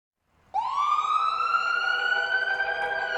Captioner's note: ambulance siren